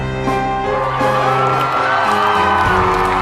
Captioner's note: cheering